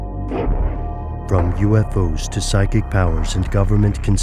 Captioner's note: voiceover